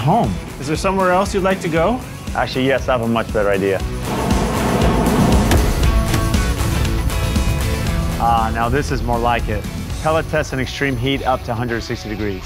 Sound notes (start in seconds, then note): 3.9 airplane noises